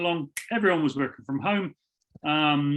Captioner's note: snaps fingers